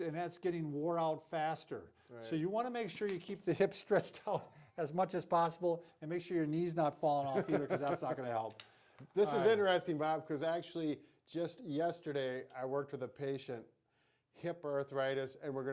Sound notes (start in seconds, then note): 7.3 laughing